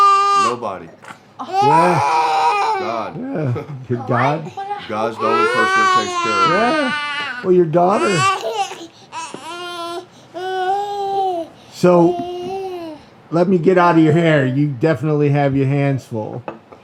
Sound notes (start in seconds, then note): 11.3 baby crying